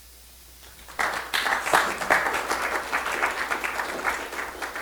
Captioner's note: audience applauding